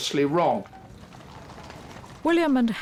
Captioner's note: cameras clicking